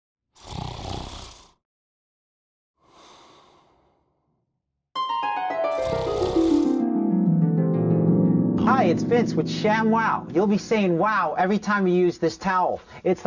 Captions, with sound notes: (snoring) (harp music) - Hi, it's Vince with ShamWow. You'll be saying wow every time you use this towel.